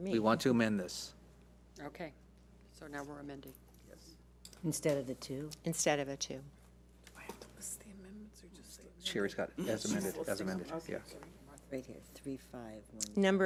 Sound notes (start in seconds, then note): 7.3 woman speaking softly